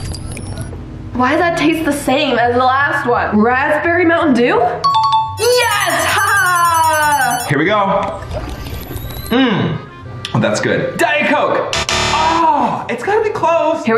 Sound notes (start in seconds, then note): 5.4 bell dings; 11.7 buzzer dings